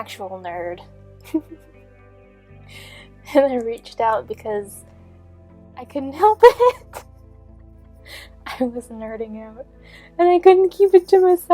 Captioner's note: giggling